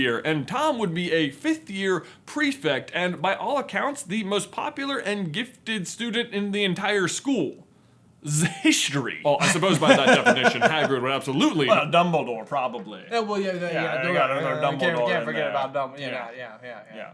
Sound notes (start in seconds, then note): 9.4 laughter